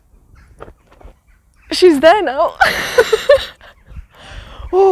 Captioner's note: laughs